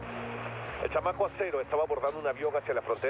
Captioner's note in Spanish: radio